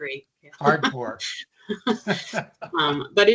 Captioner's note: chuckling